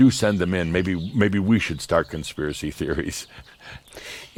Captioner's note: Adamus chuckles